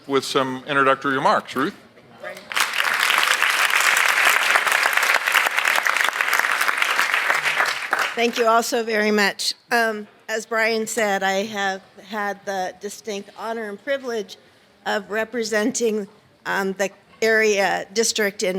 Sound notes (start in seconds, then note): 2.4 audience applauds